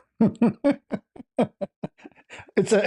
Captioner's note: ketawa